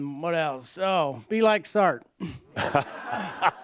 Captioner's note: laughter